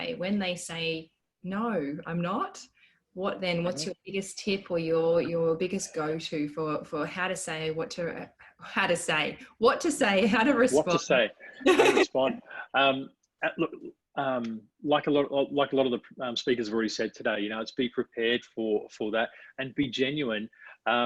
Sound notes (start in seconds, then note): 11.6 laughing